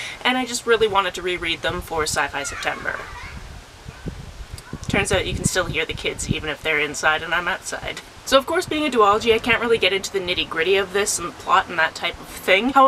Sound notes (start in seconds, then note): 2.3 kids laughing